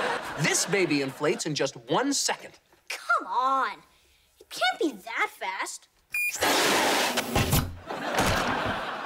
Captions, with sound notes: This baby inflates in just one second. Come on! It can't be that fast. [bed inflating] [laughing]